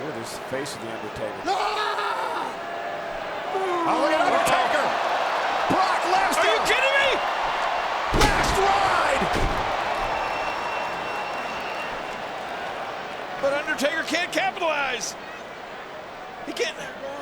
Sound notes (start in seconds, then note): 10.3 crowd cheering